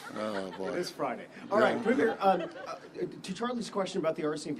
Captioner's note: laughter